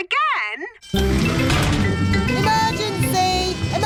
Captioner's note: siren blaring